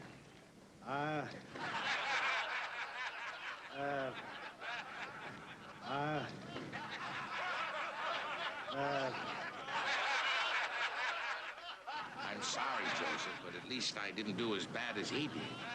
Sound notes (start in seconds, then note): 2.0 laughter; 9.8 laughing